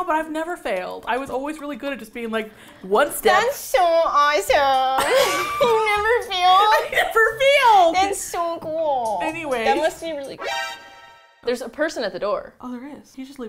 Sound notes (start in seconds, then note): 3.5 sacrastically; 5.0 both laugh; 10.3 dramatic chord